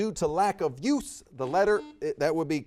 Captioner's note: buzzer beeps